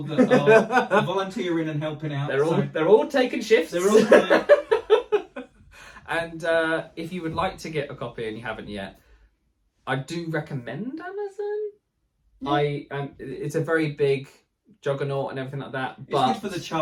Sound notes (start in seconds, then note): 3.8 laughing